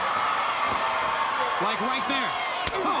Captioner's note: crowd cheering